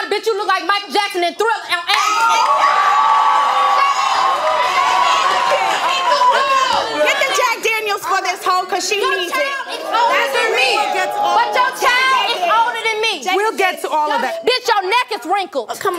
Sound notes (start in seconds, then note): 1.9 audience yells